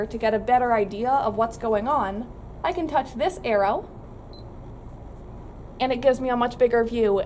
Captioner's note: beeping noise